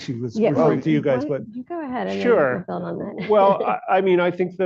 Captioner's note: laughs